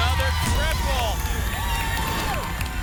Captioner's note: boom; whoosh; applause and cheering